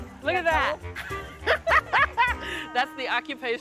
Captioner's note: laughing